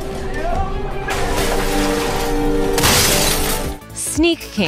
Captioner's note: crash